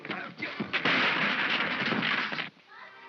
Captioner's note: crashing sound